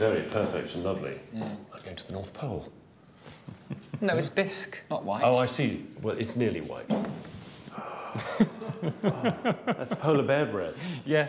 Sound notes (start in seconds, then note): 7.5 breathes deeply; 8.1 chuckles